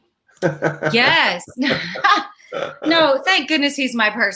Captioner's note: laughs